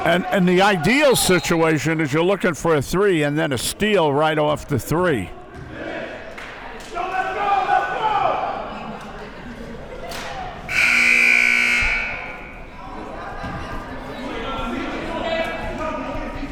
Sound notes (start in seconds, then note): 10.7 buzzer sounding